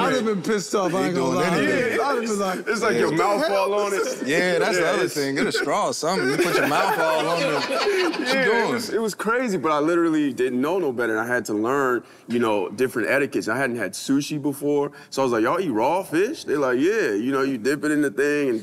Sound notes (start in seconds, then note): 8.8 all laugh